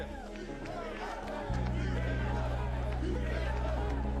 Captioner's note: chanting "Beat L.A."